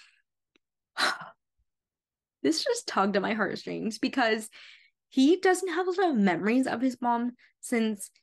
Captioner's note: sigh